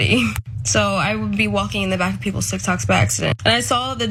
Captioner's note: laugh